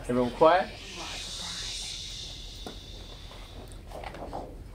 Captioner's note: people shushing